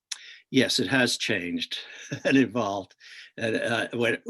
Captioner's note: chuckles